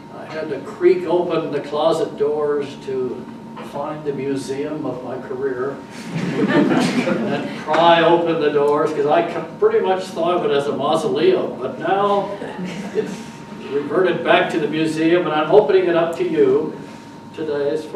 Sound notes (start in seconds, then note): 5.9 audience chuckles